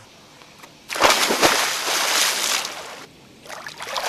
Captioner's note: water splashing